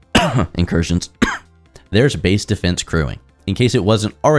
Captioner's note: cough